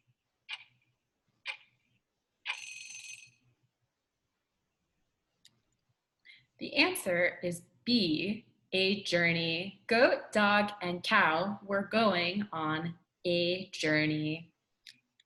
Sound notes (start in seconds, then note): 2.5 bell rings